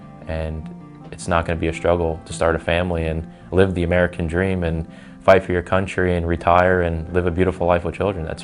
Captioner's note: none